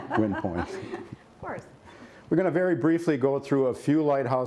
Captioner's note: laughter